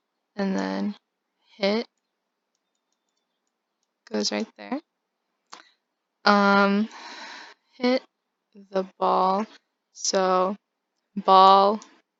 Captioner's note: sigh